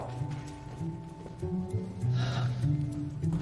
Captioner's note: sighing